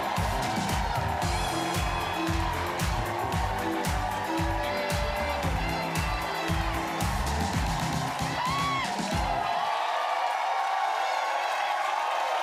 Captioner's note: cheers and applause